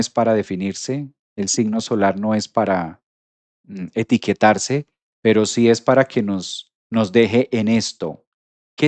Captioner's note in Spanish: carraspeo